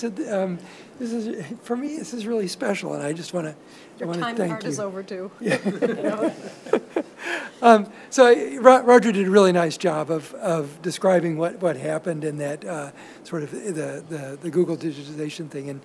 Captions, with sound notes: So for me, this is really special, and I just wanna thank you. - Your time and part is over, too. (participants laugh) - So Roger did a really nice job of describing what happened in that sort of the Google digitization thing,